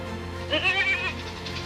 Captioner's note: goat baaing; locomotive chugging